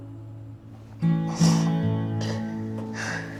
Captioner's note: June crying